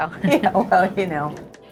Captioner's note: Kris chuckles